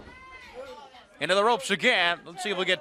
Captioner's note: crowd chatter